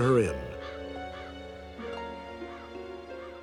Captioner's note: crows cawing